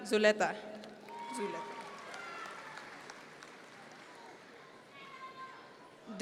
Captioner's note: audience members cheer